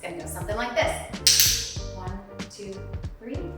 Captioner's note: clicker clicking